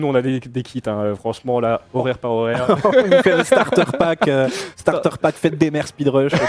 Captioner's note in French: rires